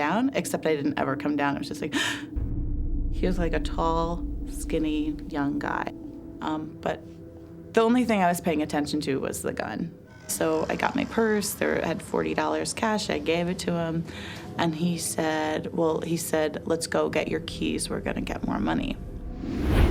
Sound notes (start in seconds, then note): 1.9 gasp